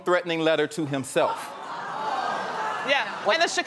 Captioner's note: audience exclaiming surprise